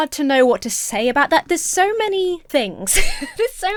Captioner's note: laughs